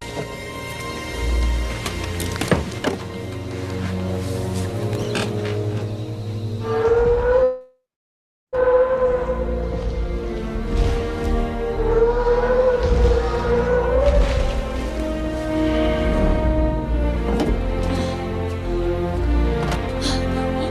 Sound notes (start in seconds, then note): 0.0 suspenseful music; 6.6 animal howling; 14.8 suspenseful music continues